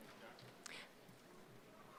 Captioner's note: none